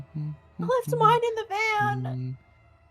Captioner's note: humming; humming